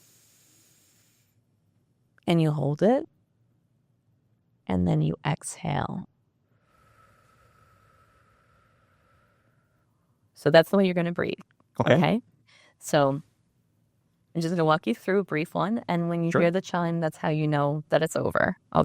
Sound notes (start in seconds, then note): 0.0 breathing; 6.5 exhaling